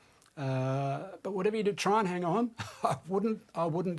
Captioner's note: chuckles